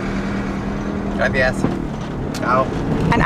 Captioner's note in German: auf Spanisch